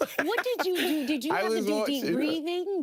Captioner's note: laughing